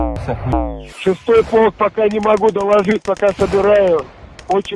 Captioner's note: russian radio intercept